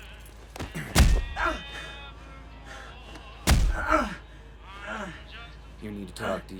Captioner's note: grunting; thudding